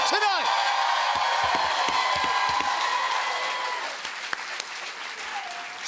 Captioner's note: cheers and applause